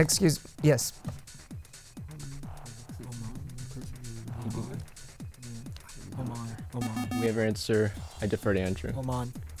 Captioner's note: wispering